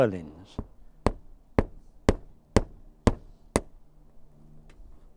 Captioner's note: hammer knocking